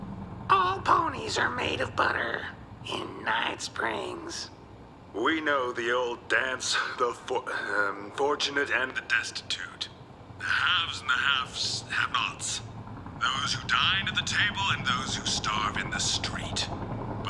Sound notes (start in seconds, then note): 11.0 slurs words